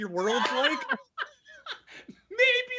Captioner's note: laughing loudly